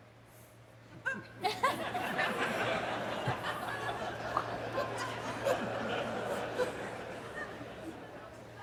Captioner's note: laughter